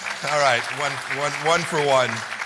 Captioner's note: laughter